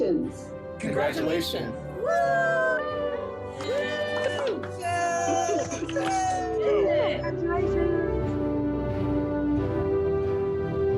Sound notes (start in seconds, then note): 2.0 crowd; 4.8 crowd cheering